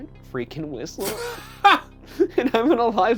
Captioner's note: laughs